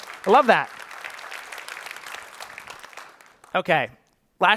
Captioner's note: applause